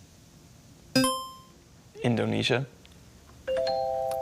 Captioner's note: buzzer chimes